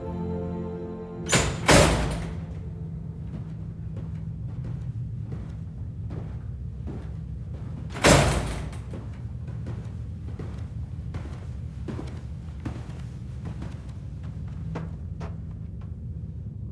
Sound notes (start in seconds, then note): 1.2 door clicking